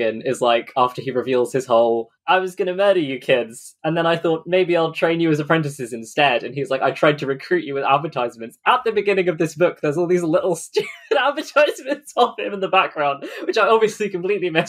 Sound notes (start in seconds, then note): 10.7 laughing